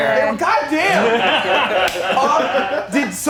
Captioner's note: movers laughing